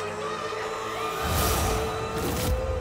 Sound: Çığlık sesleri

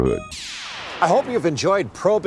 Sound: whooshing

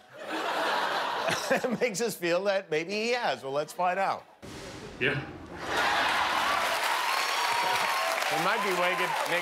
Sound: laughter

